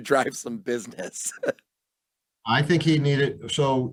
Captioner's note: laughs